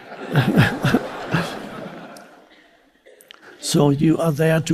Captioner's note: audience laughs